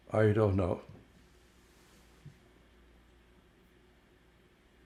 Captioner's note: pauses 6 seconds